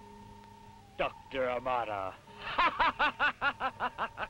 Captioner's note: laughs